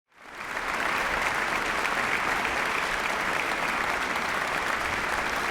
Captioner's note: applauding